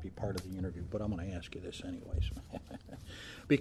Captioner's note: chuckling